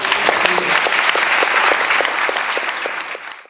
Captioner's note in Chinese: 掌聲